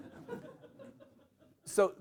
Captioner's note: laughter